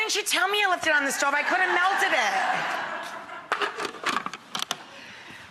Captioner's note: audience laughing